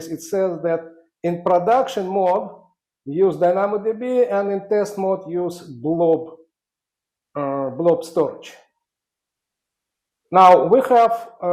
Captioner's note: audio cutting out